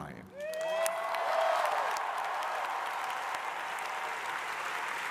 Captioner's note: crowd applauding